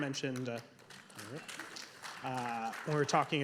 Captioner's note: audience members applauding